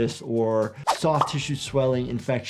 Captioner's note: none